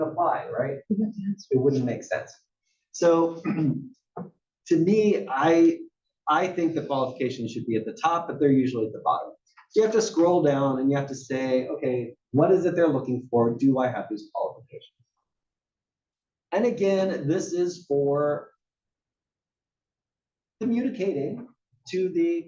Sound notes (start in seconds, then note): 3.4 cough